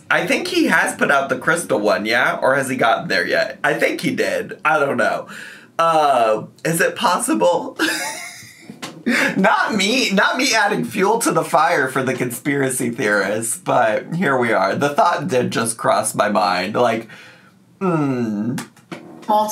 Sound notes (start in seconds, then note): 8.1 laughs